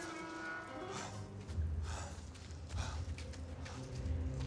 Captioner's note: gate creaks; husband pants